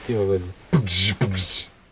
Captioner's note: puncht puncht